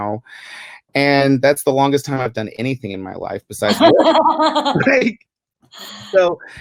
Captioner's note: laughter